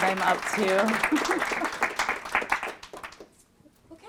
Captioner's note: applause